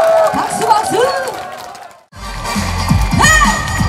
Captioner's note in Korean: 박수박수